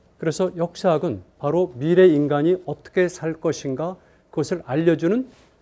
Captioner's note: speaking in Korean